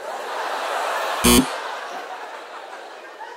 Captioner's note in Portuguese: campainha